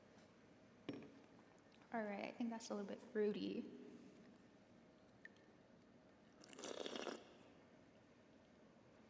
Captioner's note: slurping